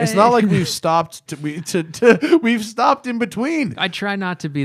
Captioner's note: laughter